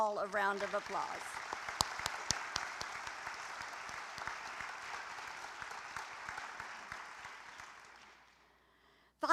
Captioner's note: applause